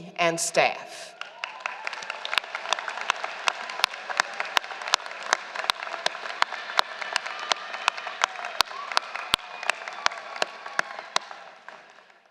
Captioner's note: applause